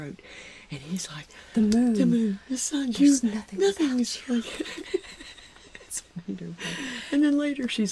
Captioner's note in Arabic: يضحك